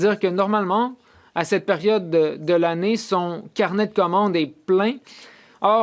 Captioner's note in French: voix de l'interprète